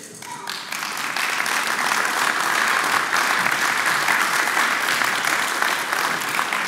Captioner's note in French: Applaudissements